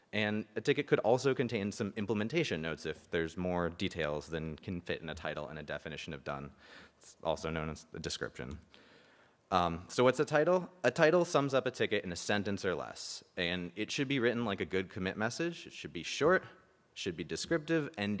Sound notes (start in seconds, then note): none